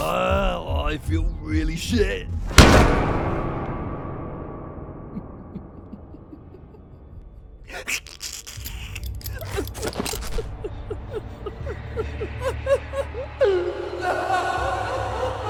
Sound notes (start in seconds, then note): 0.0 disturbing suspense; 0.0 nauseated groaning; 1.4 disturbing suspense; 5.1 evil laughter; 9.5 evil laughter